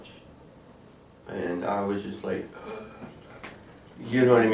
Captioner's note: gasp